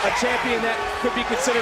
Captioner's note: crowd cheers